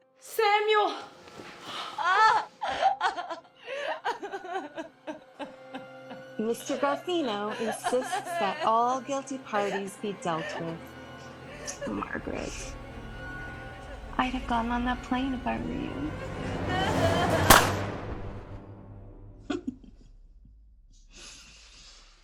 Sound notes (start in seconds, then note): 1.5 wailing; 11.8 dramatic music; 15.8 Margaret wailing; 17.4 gunshot pops; 19.5 laughs